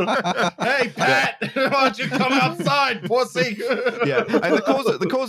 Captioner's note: laughter